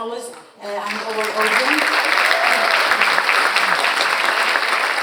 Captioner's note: audience applauding